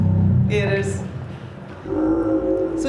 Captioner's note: guttural sounds